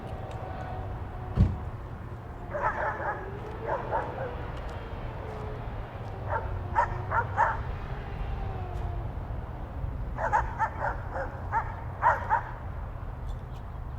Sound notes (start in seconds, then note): 2.4 dog barking; 6.2 dog barking continues